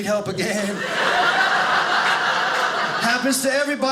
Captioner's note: audience laughing